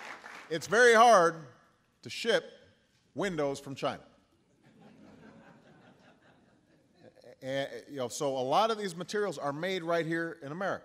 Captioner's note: applause; laughter